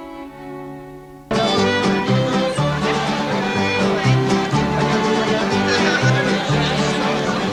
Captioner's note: mariachi music; guests chattering